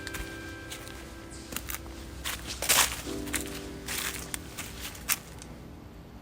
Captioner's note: footsteps crunching leaves